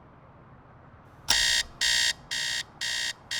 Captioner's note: beeping Sound